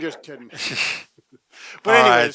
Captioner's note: chuckles